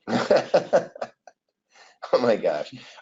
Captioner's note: laughs